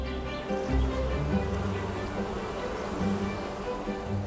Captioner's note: bee buzzing